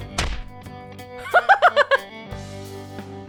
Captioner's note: chuckles